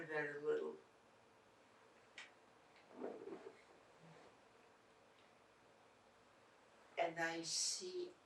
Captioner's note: pauses 6 seconds